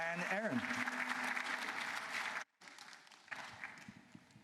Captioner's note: applause